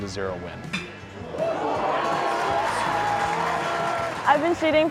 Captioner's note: cheer